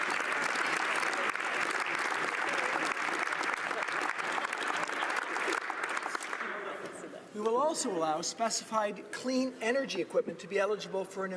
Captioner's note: applause